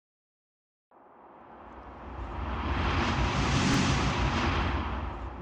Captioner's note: logo whooshing